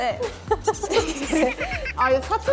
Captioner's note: laughing